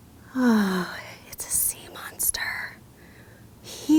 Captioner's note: sighs loudly